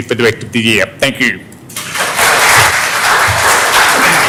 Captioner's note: applause